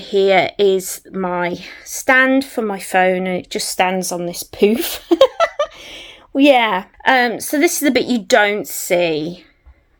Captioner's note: laughs